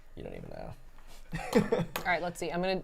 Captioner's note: laughs